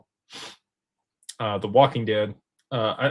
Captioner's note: snorts